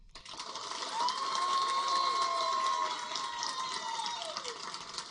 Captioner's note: audience applaud and cheer